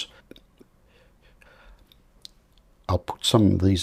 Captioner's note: silence